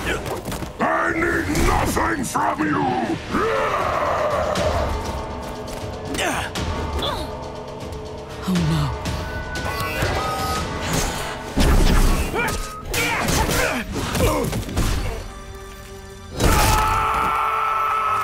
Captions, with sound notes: I need nothing from you! [roaring] [grunting] Oh, no. [grunting] [crunching, screaming]